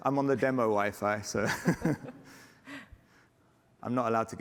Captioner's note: laughter